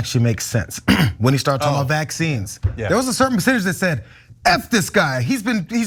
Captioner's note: cough